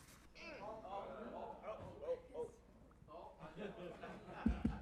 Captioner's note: audience chatters; hand taps